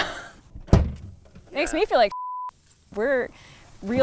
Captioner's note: beeps